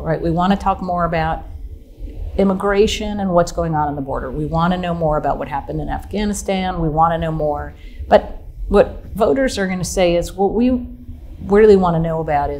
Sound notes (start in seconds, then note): none